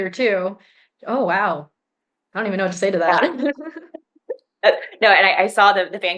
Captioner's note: chuckles